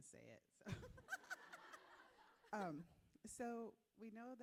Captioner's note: everyone laughing